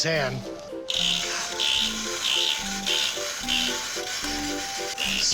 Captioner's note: electronic chittering